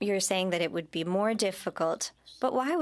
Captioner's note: speaking French